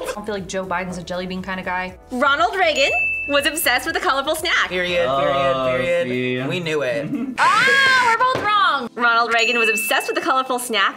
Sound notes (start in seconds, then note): 7.5 buzzer